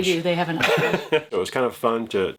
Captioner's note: laughing